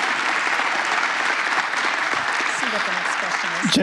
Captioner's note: applause